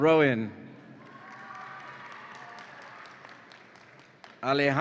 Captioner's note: audience applauds and cheers